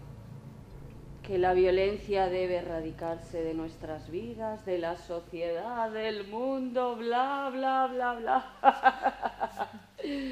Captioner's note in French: rires